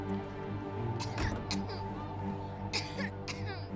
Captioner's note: coughing